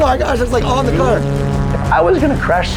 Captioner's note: plane engine roaring